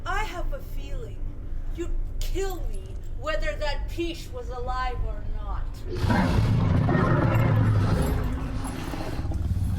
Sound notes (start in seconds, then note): 5.9 Dweller growls